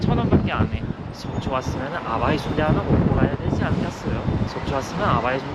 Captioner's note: in Gangwon dialect